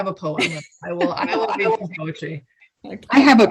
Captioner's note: giggles